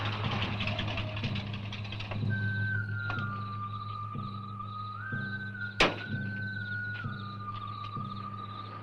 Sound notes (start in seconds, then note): 2.8 crickets chirping; 2.8 eerie music